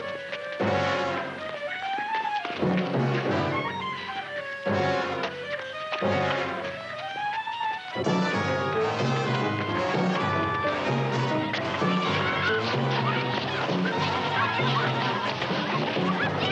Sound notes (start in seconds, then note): 10.2 footsteps scuffling; 12.5 children chattering